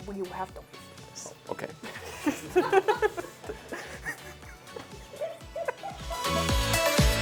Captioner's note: laughter